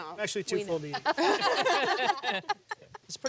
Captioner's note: laughter